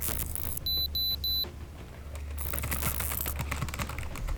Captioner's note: detector beeps